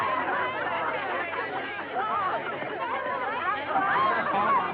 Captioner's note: chatter